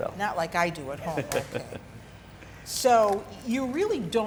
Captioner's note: chuckles